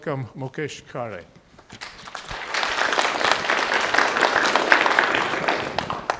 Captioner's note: audience applauding